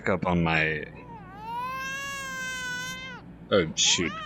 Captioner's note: baby Crying